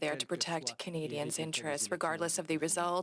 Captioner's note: speaking French